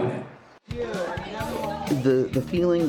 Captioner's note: indistinct chatter